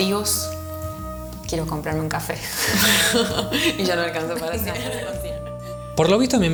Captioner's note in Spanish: Risas